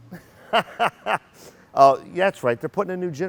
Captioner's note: laughing